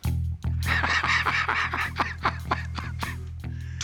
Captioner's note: laughs